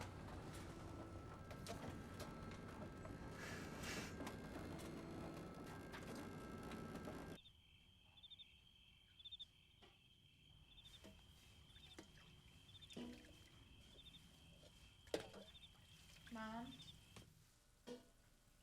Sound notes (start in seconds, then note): 7.4 crickets chirping